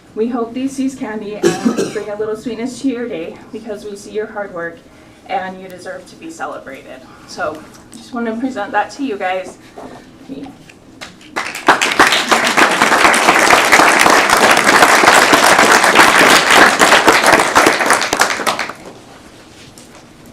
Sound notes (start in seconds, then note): 13.4 applause